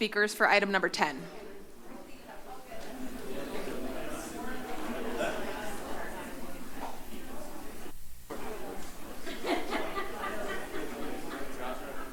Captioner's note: background chatter